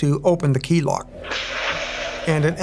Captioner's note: acid hissing